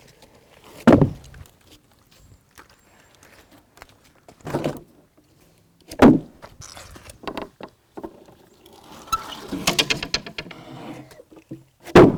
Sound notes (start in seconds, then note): 0.9 wood thuds; 9.3 wood cranking